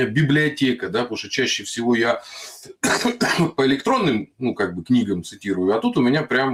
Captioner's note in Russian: кашель